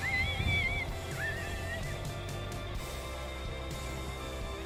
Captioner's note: coyote calls